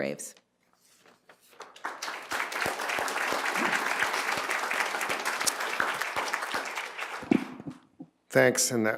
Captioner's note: applause